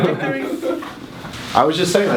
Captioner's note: laughs